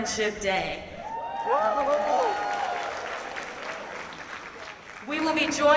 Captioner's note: audience cheers and claps